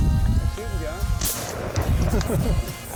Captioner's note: gun fires